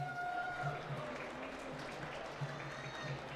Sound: applause

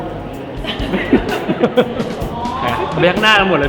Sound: laughs

